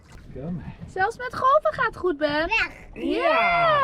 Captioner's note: speaks Dutch